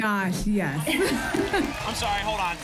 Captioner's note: applause and cheering